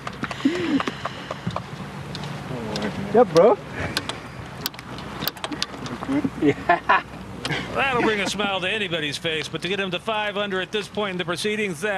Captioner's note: laughter